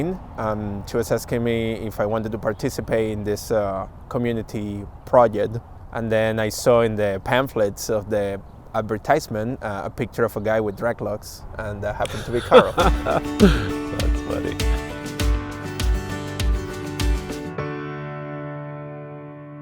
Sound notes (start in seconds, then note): 12.0 laughing